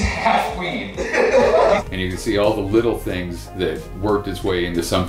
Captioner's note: laughter